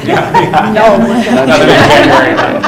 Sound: laughs

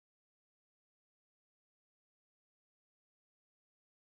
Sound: none

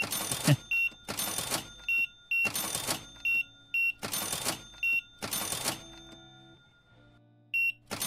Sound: beeping

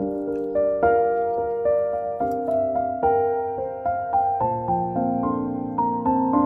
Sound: laughs

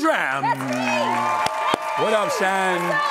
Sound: audience applauds

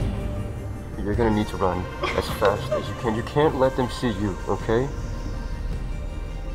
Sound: quiet sob

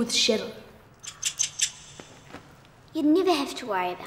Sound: rat squeaks

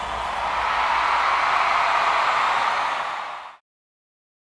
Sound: audience cheers

